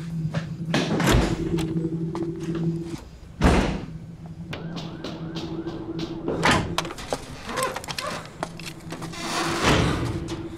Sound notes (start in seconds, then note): 3.4 door slams; 3.8 distant police sirens; 7.1 metal door creaking